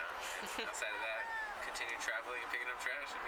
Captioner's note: person yelling in the background